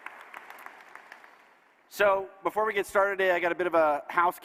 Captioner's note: applause